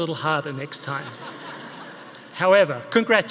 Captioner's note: audience laughing